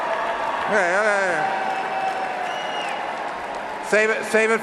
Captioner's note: cheering and applause